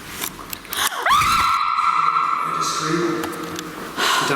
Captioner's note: screaming